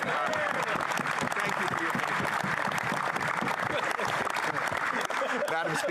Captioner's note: laughter; applause